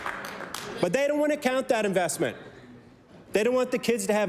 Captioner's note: applause